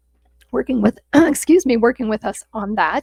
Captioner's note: clears throat